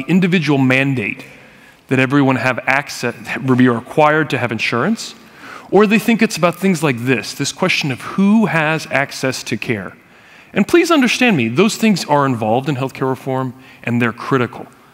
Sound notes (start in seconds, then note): none